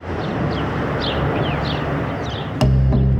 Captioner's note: birds chirping